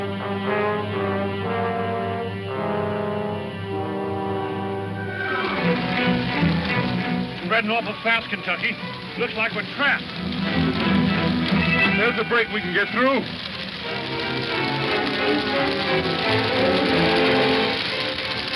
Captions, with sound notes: (fire crackling) - It's spreading awful fast Kentucky. Looks like we're trapped. (fire crackling) - There is a break we can get through. (suspense music) (fire crackling)